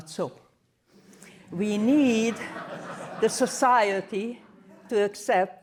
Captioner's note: laughter